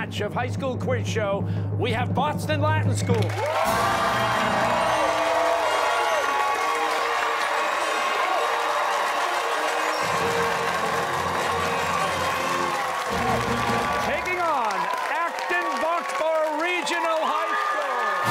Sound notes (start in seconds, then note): 3.5 fanfare playing; 7.8 cheers and applause